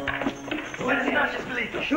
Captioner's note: Spanish spoken audio